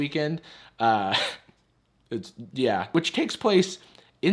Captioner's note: chuckles